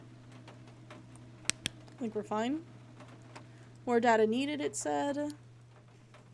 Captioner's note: flashlight Clicks Off